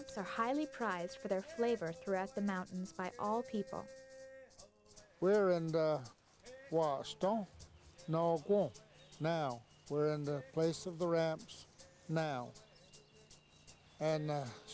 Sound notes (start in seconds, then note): 8.7 speaking Cherokee